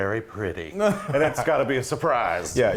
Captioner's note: laugh